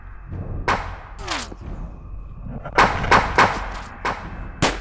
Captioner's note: gunshots banging